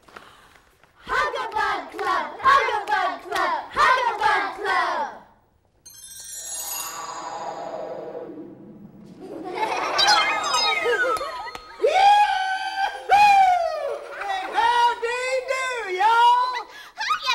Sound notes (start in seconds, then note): 5.1 wind; 9.2 laughter